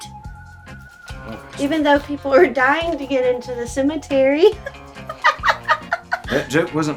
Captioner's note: laughs